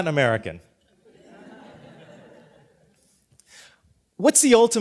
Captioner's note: laughter